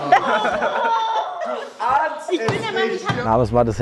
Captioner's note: laugh